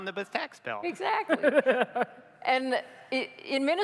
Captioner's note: laughter